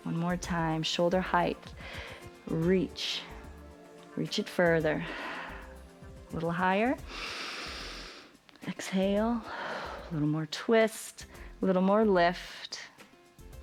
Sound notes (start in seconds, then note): 7.0 exhales; 7.1 inhales